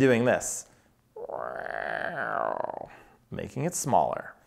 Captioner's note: mimicking creaking